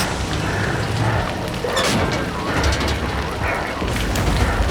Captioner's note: static crackling; heavy breathing